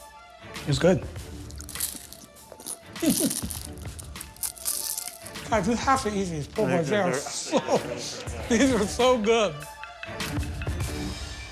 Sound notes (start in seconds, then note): 1.4 more crunching